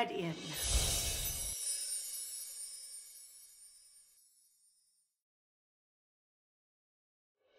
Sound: sparkling; screen whooshes

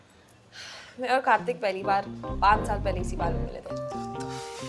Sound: sighs

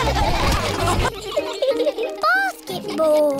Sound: all giggling; all laughing

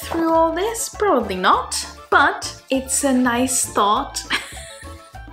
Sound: laughing

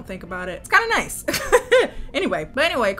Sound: laughs

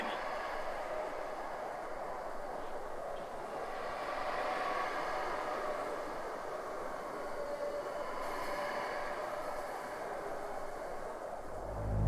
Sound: howling continues

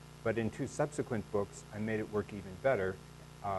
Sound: none

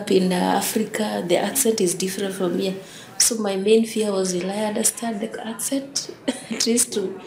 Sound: laughs

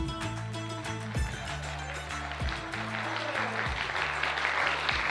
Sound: audience applauds

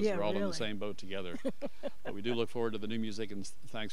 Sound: laughing

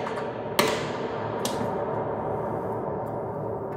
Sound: long reverberation

